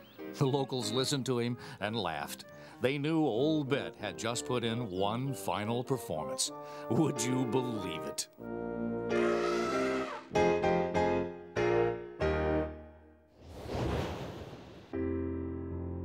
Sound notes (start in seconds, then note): 9.1 elephant snorting; 10.8 dramatic piano music